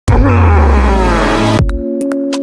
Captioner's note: intro sound effect and unintelligible groaning